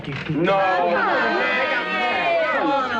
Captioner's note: class protesting